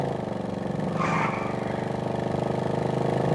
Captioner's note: tires squealing